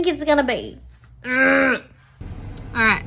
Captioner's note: makes annoyed growl